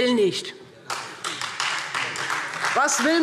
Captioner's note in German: Beifall Freie Demokraten